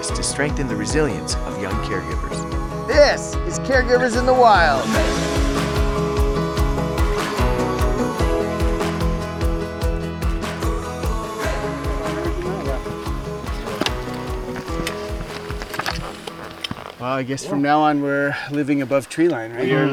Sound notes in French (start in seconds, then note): 11.5 bruits de pas